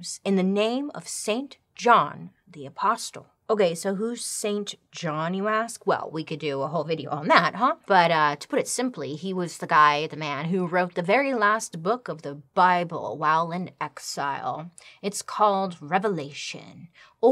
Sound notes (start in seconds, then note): none